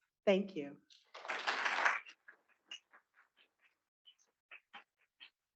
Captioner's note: students clapping